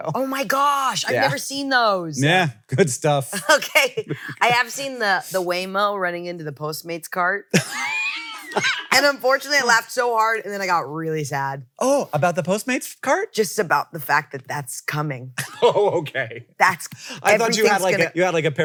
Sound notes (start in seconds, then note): 3.7 laughs; 7.6 laughs; 15.4 laughs